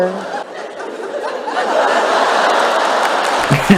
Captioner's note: audience Laughter